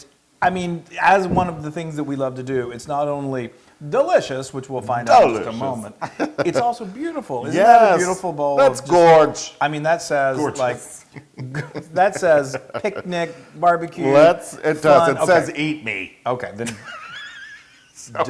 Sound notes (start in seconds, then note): 10.4 laugh; 17.3 laugh